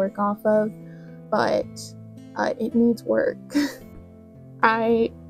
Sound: gentle laugh

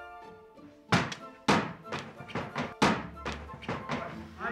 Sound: objects thumping

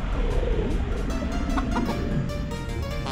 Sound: cluck cluck

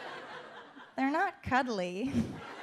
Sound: audience laughs

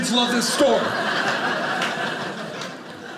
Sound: audience laughing

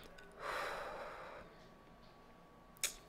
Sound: exhales

